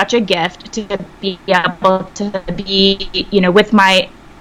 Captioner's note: sound distorts